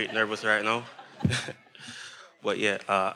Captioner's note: everyone laughing